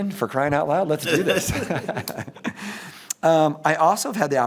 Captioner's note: laughs